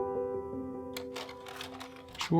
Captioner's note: projector clicks